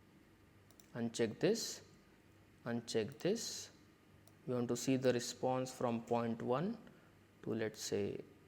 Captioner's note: click